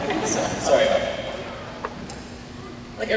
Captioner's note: laughter